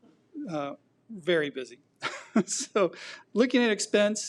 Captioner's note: laughs